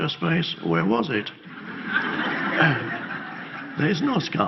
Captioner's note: audience laughs